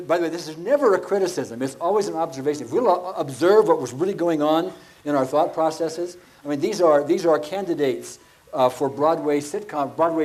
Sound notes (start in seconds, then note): none